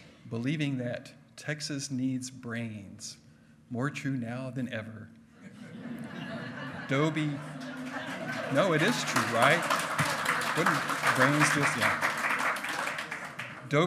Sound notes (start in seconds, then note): 5.4 hearty laughing; 10.0 loud clapping